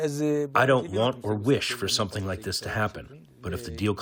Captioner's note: through translator